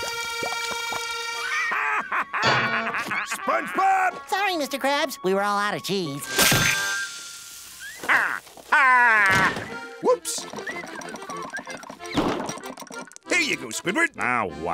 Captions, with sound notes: [laughing] SpongeBob! Sorry, Mr. Krabs! We were all out of cheese. Ha-hah! Whoops! [whistling] - There you go, Squidward. - Now what?